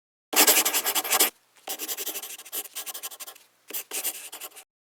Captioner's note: pencil scribbling